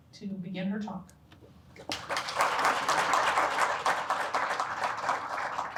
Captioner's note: applause